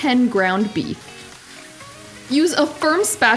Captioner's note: sizzling